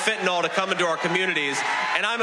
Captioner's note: applause